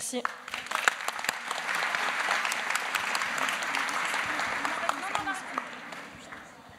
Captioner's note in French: Applaudissements